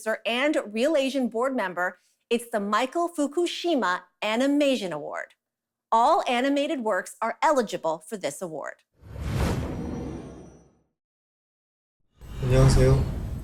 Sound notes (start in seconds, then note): 9.0 transition sound